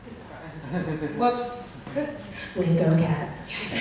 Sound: voiceover

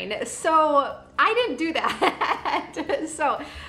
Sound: laughs

